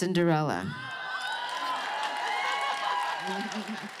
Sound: cheering

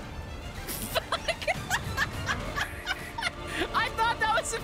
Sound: laughter

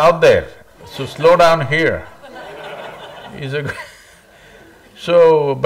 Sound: laughter; laughs

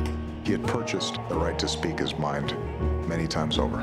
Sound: voiceover

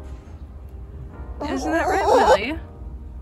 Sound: louder chicken noise

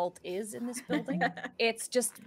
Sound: Hope laughing

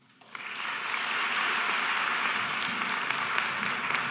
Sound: audience applauding

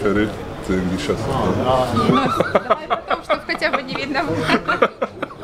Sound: laughs

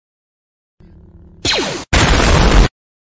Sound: blaster fire; explosion

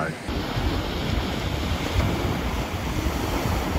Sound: waves rushing

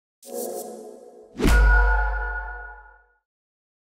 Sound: logo whooshing

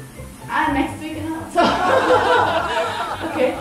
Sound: laugh

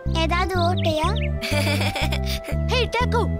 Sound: Taco LAUGHING

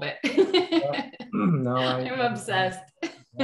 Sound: laughs

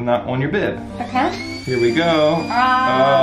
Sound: machine whirring

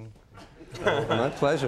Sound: audience laughs

